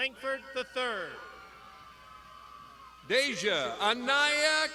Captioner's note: crowd shouting